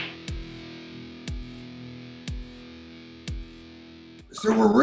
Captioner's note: slapping sound